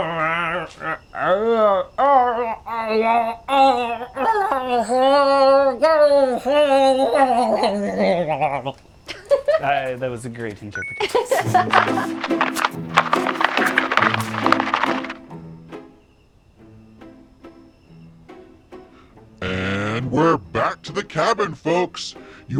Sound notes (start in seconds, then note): 0.0 groaning and growling; 11.2 dubious music; 11.4 bonus point chimes